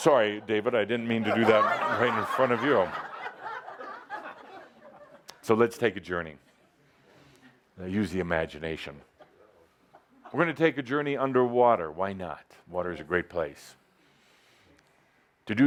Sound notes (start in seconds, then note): 1.2 more laughter